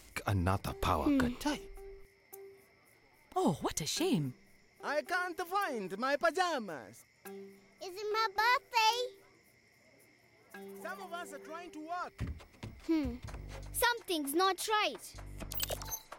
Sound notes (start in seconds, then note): 7.0 insects chirping